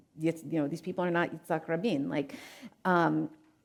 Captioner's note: speaking in foreign language